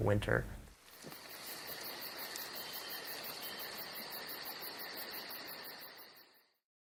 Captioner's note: crickets chirping